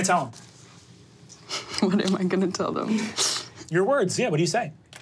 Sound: chuckles

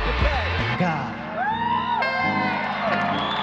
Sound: audience cheers and whoops

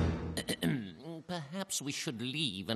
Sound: clearing throat

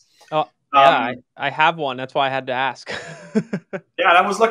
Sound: laughs

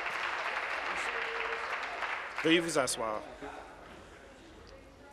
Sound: applause

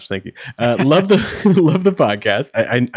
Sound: laughing

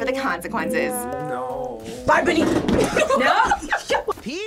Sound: laughs

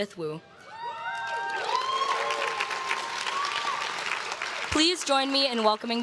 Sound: crowd claps and cheers

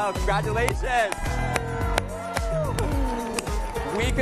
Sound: laughs

